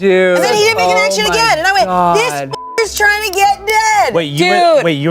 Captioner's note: beep